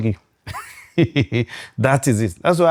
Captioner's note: laughs